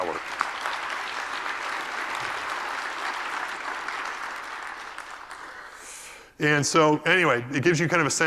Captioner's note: applause